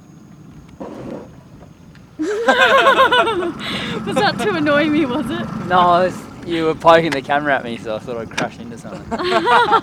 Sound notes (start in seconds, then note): 2.2 all laugh; 8.8 all laugh